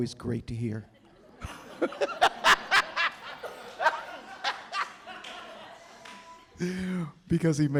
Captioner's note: audience laughing